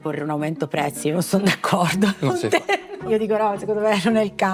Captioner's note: laugh